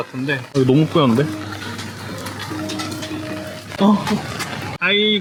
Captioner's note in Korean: 와이퍼 작동